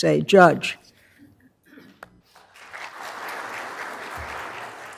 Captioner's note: applause